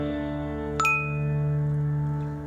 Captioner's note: notification sound